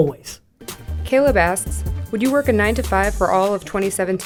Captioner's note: voiceover